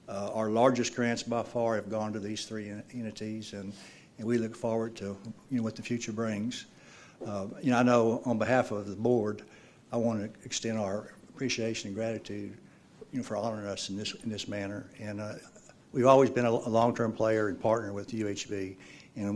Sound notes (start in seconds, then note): none